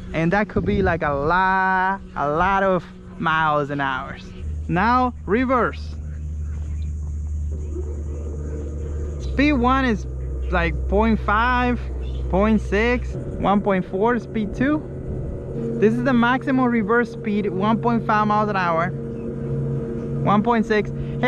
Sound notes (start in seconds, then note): 7.8 engine roars